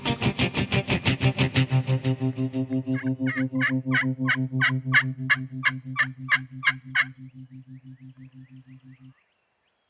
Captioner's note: turkey calls